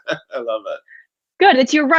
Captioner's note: chuckles